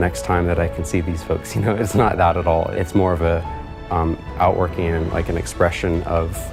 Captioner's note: chuckles